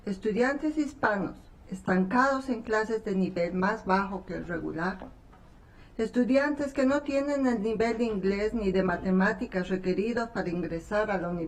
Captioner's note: speaking spanish